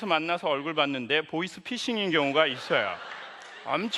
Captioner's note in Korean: 웃음